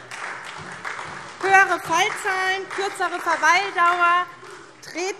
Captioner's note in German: Beifall SPD und vereinzelt DIE LINKE